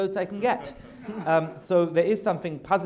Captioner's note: audience laughter